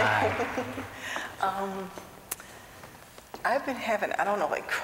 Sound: laughter

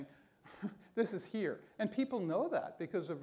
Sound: scoffs

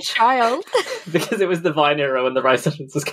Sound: laughing

